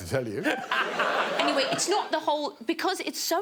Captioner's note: all laughing